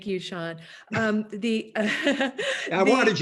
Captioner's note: laughing